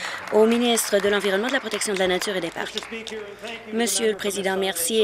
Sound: applause

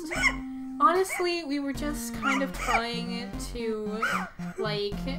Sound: Blueheart giggling

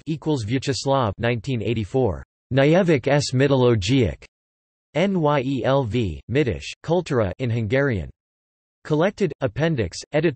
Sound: in Hungarian

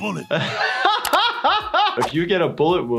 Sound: laughs

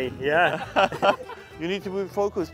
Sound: laughs

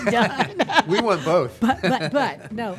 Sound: laughing

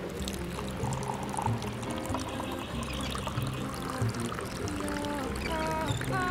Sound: coffee pouring sound while light music continues in the background

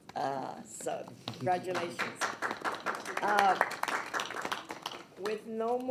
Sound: people clapping

